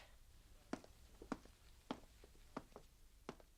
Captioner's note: SFX: footsteps